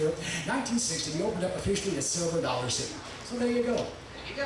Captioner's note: none